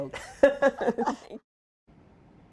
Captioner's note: laughter